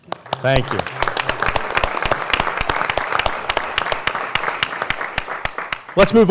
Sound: applause

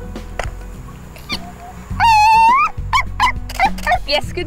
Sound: squeaking; camera shuttering

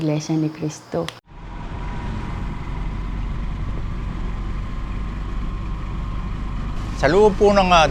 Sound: engines whirring

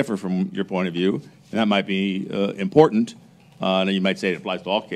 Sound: none

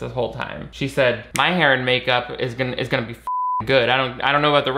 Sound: beep

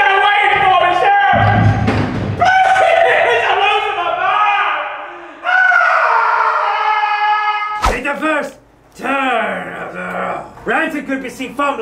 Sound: screaming, pleading

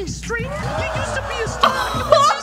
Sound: laughs

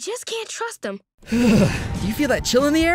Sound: shuddering

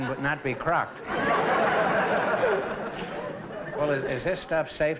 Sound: laughter

